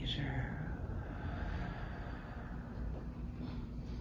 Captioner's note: exhales